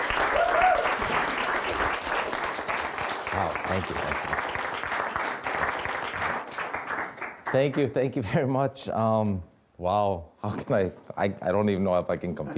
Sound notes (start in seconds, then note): 0.3 woman cheering